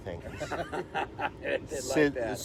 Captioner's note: laughter